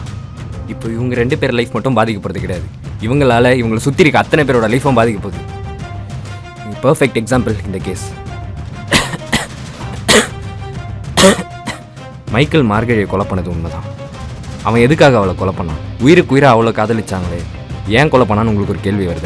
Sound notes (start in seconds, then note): 8.0 coughs